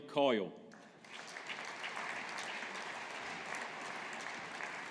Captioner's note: audience applauding